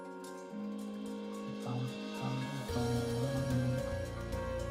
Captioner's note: humming along